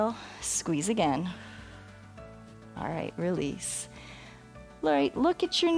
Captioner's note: exhales